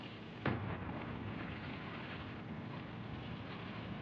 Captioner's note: explosions